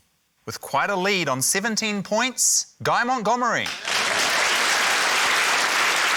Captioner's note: applause